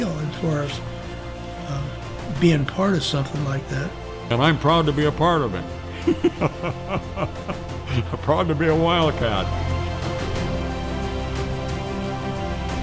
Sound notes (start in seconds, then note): 5.9 laughing; 9.9 dramatic music